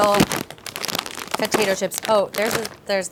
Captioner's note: bag rustles